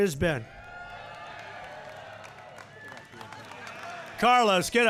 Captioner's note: applause